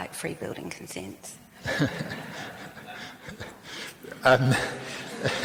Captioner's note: crowd laughs